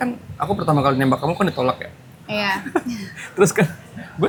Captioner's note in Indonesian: tertawa